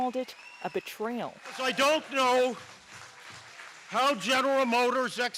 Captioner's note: cheers and Applause